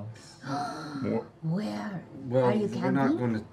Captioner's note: gasps